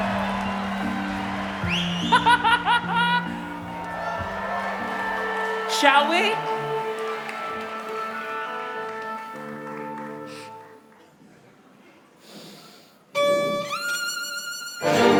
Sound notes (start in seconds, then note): 1.7 laughing; 4.0 orchestra tuning; 7.0 applause